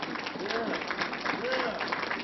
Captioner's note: applause